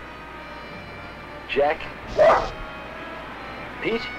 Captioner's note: Pete barking